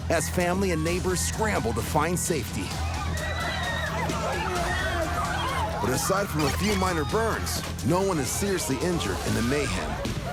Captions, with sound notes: as family and neighbors scramble to find safety. [ People screaming ] But aside from a few minor burns, no one is seriously injured in the mayhem.